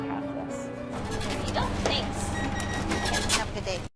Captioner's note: cash register